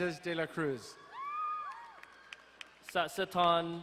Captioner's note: crowd cheering and applauding